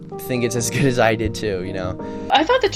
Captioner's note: chuckles